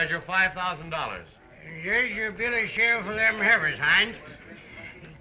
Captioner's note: slurring